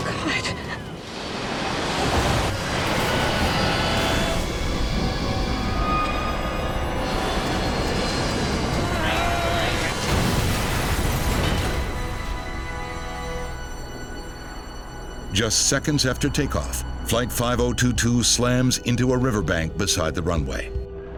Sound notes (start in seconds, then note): 1.5 intense music; 8.8 pilot grunting; 9.1 loud crash